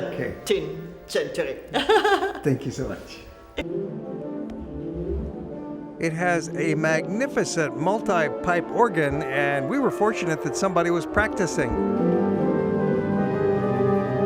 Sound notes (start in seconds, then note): 1.7 laughter; 13.3 organ music